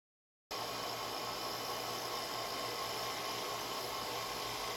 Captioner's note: machine buzzing